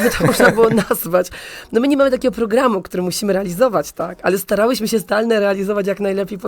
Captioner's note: śmiech